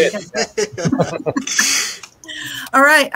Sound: all laughing

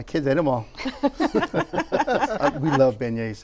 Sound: laughter

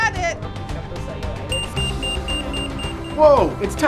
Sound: beeper

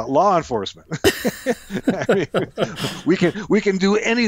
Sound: both laughs

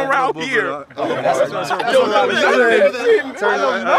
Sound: crowd talking

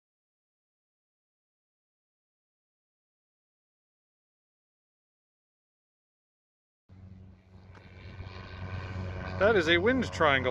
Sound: airplane taking off

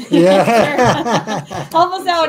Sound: both laughing

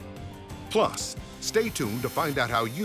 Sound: voiceover

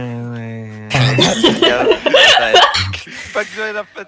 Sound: laughter

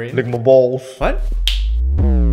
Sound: snap

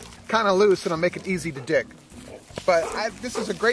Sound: soil thumps on ground

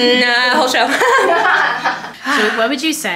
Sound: people laughing

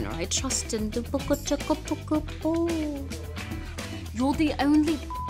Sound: Vanessa speaking gibberish; beep

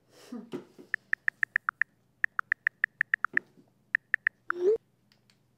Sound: chuckle; keyboard typing sounds

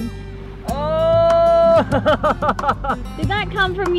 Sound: laughs

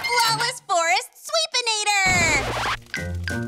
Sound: record scratches

